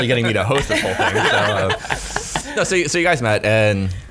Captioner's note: laughing